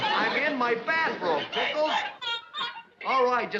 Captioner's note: pickles crying on phone